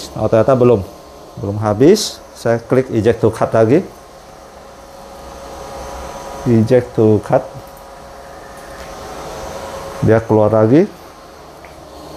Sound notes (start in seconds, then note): 5.9 clicking noise